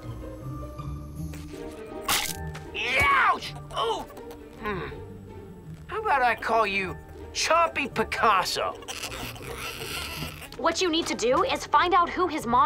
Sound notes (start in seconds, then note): 8.6 squeaking